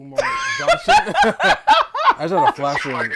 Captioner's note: laughing